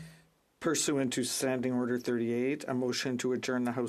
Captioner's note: speaking French